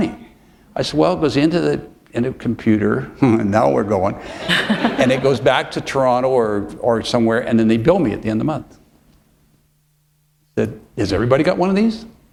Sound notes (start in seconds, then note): 4.3 laughter